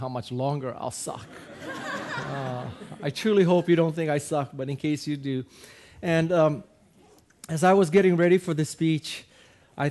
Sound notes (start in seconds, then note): 1.2 audience laughing